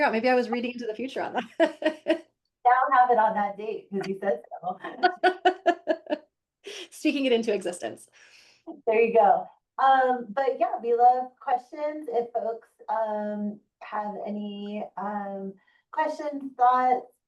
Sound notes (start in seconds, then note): 1.5 laughing; 4.8 laughing